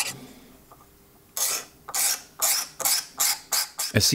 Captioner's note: scratchy grinding